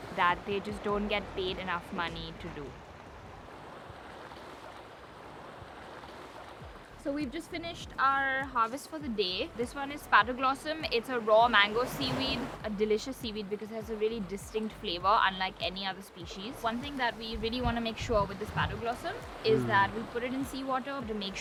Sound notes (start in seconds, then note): 3.3 waves swishing